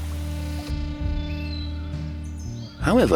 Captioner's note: birds chirping